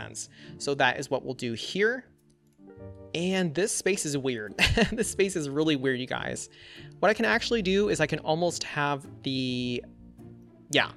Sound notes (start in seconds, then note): 4.6 laughs